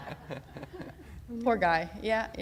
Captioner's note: laughter